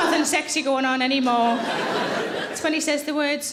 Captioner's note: audience laughing